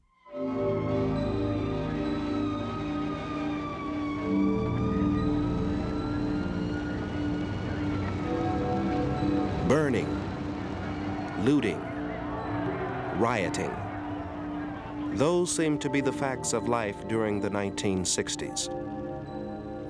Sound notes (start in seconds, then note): 0.1 dramatic music; 2.3 sirens wailing